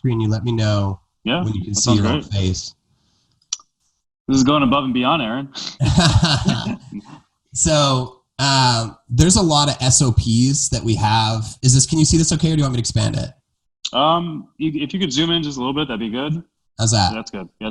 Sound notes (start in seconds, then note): 5.5 laughing